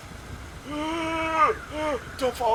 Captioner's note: more terrified noises